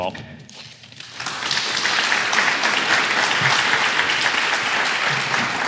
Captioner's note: audience clapping